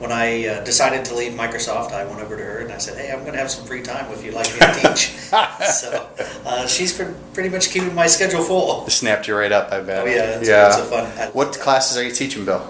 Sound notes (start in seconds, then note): 4.4 laughter